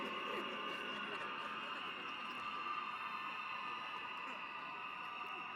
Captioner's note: applause